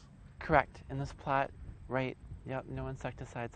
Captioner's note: voiceover